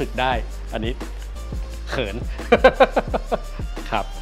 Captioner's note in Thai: หัวเราะ